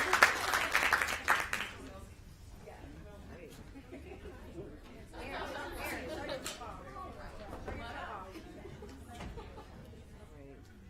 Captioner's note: applause